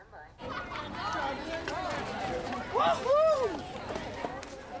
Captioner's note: laughter and chatter